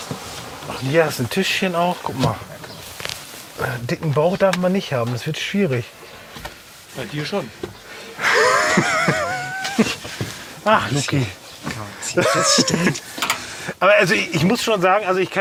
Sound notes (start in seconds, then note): 10.6 laughs